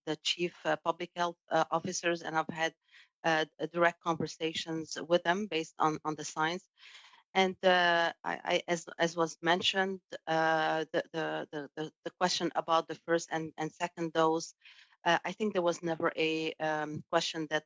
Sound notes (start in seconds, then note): 1.2 speaking French